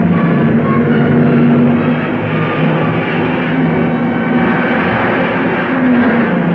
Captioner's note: dramatic music; cars revving